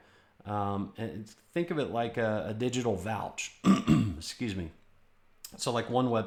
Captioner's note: clears throat